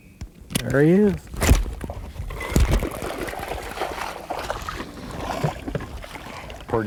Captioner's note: splashing